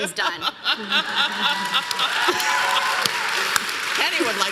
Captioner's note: audience applause